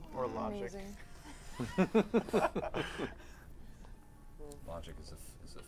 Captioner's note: laughter